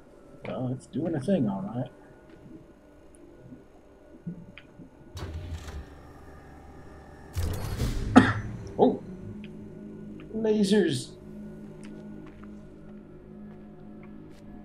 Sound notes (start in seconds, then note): 8.1 coughs